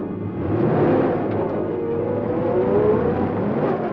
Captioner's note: engine starts